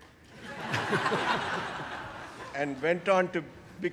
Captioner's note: audience laughing